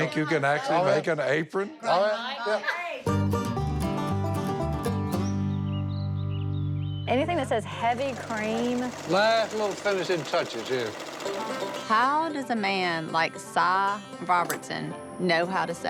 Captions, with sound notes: So you think you can actually make an apron? Oh, yeah. yeah. [laughs] Go, Army. Anything that says heavy cream-- Last little finishing touches here. How does a man like Si Robertson know how to sew?